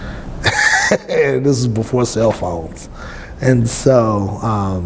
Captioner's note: laughs